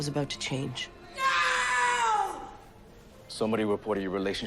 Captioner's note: screaming